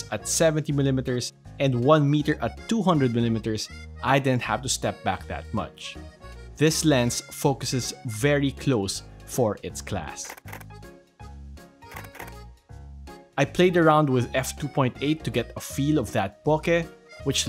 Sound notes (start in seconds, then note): 11.9 camera shutters